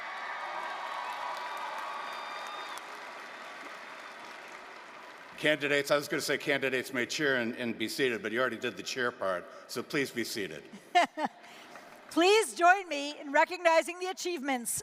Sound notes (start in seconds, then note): 0.0 applause, cheering; 12.2 brief laughter